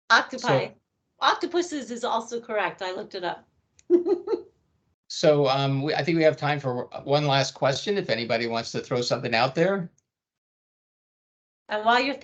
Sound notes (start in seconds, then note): 3.9 chuckling